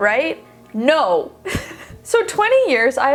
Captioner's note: laughs